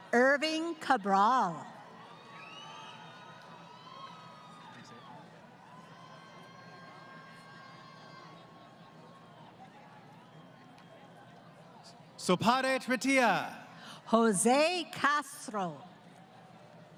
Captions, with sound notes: >> Irving Cabral. [ Crowd Cheering ] >> Sopadet Patiya. >> Jose Castro.